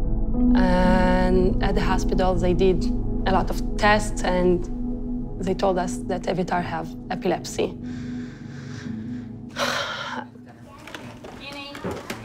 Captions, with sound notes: And at the hospital, they did a lot of tests, and they told us that Eviatar have epilepsy. [sighs] [indistinct chatter]